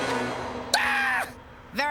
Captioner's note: screams